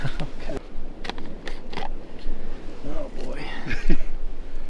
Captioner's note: laughs